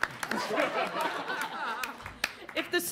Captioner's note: audience applauds; audience laughs